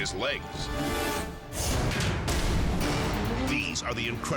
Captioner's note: dramatic music; graphics booming